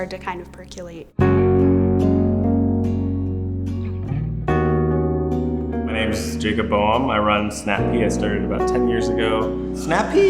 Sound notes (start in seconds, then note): none